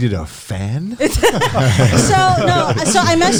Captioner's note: all laughing